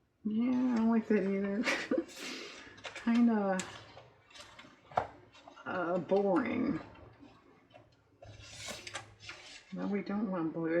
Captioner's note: laughs